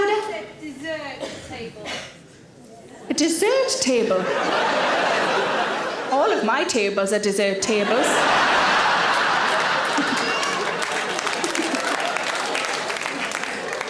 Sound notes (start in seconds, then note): 4.1 audience laughing; 7.9 audience laughing and clapping